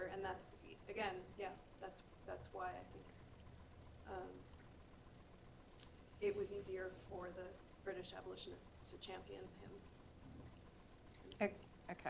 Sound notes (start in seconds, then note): none